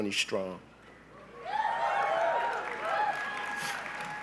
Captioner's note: cheering